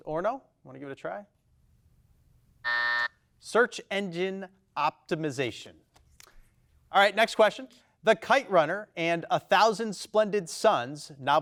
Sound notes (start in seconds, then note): 2.6 buzzer beeps